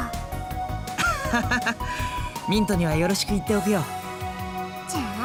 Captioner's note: slightly awkward laugh